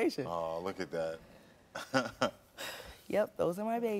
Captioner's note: giggles